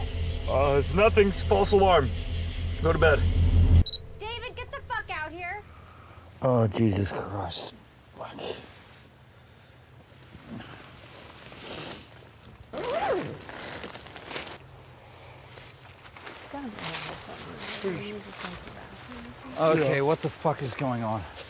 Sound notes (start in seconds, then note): 2.6 drone swells; 3.8 camera beeps on; 12.7 tent unzips